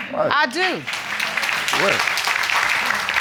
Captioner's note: audience applauding